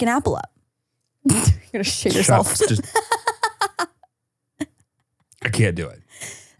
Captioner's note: laughs